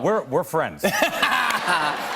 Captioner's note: laughter